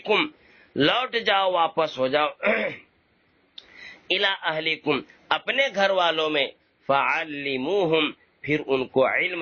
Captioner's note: he clears his throat